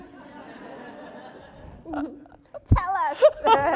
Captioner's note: audience laughing